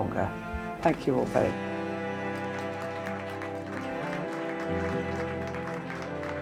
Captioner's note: audience applauding